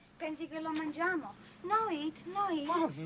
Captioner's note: speaking foreign language